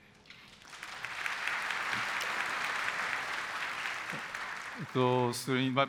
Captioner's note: applause